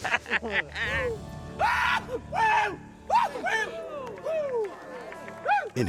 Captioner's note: screams